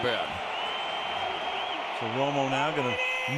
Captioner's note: cheering